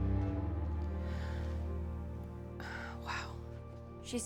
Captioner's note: sighs